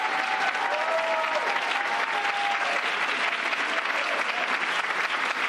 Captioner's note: cheers and applause